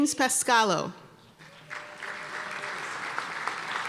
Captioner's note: applause